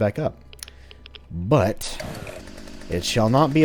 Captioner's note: Smackie roars to life